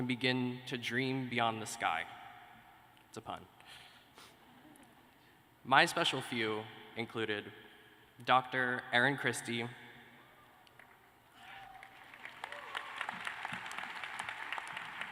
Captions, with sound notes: BEGIN TO DREAM BEYOND THE SCI. IT'S A PUN. [LAUGHTER] MY SPECIAL FEW INCLUDED DR. ERIN CHRISTIE,.